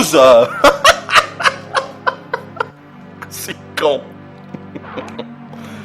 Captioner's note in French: rires